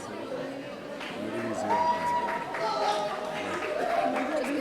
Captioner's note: audience cheering